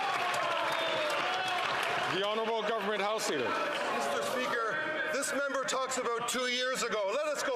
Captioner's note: some Applause